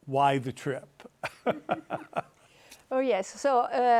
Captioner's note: laughing